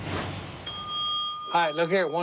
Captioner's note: ding